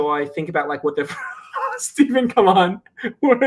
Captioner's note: laughs